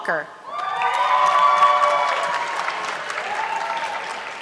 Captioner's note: audience clapping